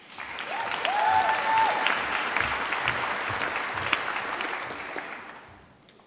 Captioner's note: applause